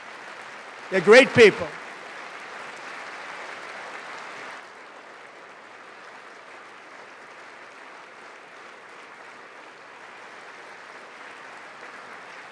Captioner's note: applause